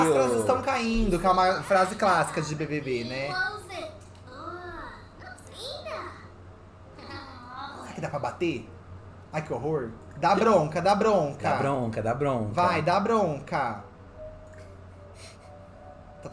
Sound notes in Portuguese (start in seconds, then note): 3.4 Sims conversam; 14.5 música ambiente